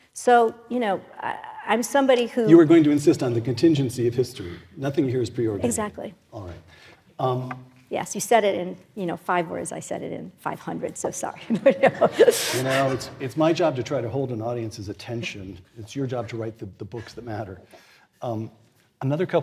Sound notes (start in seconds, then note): 11.4 laugh